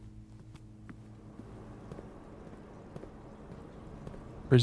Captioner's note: silence